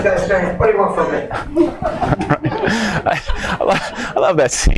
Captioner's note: laughs